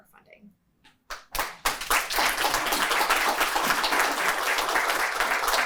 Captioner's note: applause